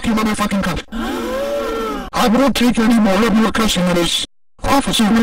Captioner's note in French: le public halète